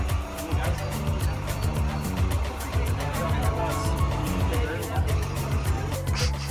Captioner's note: drinking